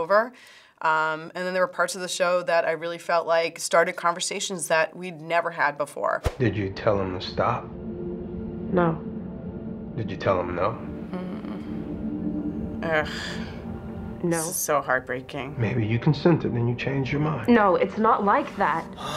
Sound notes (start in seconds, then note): 11.1 sighs; 11.4 hums sadly